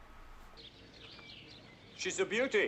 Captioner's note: birds chirping